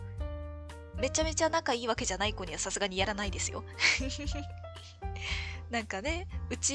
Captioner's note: laughs